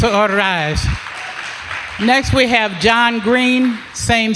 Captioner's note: applause